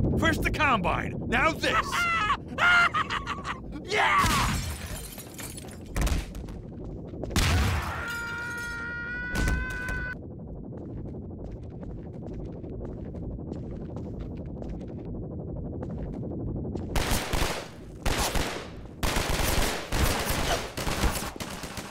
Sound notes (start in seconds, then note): 7.8 screams; 9.9 Mortar Synth Hovers; 16.9 gunfire; 21.7 gunfire Stops